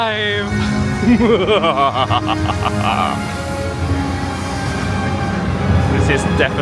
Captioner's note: epic music; laughs maniacally